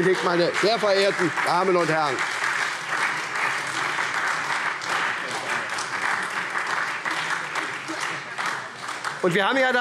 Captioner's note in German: Beifall SPD und Freie Demokraten